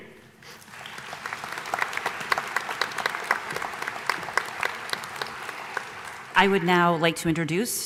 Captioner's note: applause